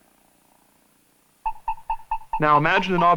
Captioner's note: beeping